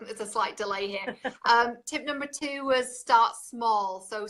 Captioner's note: laughs